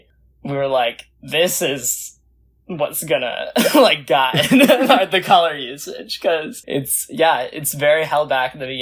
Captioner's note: both laugh